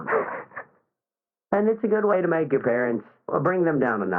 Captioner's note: laughs